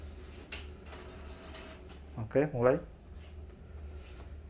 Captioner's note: printer machine sound